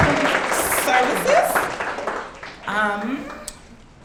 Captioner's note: audience clapping